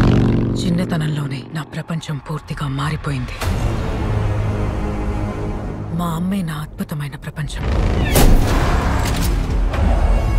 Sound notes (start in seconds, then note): 8.0 gunshot